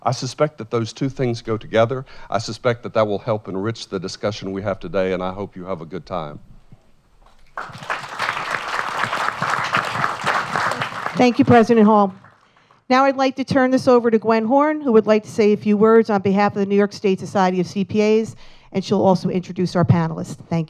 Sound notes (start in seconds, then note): 7.2 applause